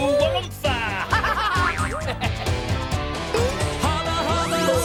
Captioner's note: upbeat music; Hoobs laugh